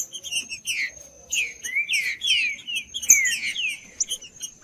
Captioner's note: trinca ferro cantando